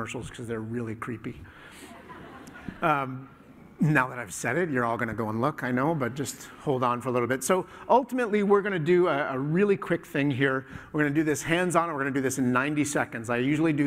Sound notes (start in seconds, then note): 1.8 laughter